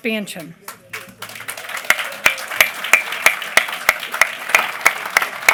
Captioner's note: applause